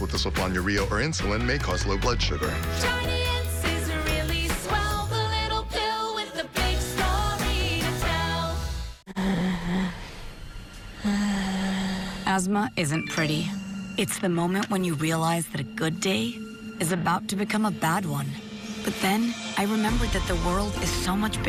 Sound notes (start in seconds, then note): 8.0 wheezing